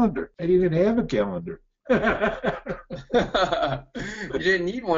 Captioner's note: hearty Laugh